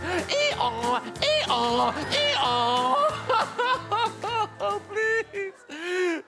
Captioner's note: donkey noise; turns into cryin